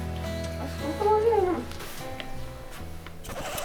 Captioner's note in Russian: очень сонный голос